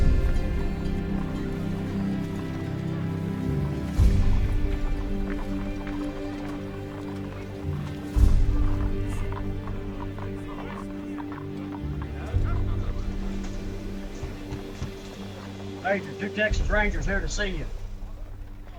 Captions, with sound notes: (knuckles rapping) Major, two Texas Rangers here to see you.